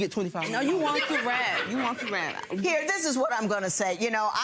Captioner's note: mumbles